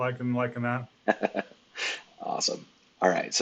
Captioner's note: laughs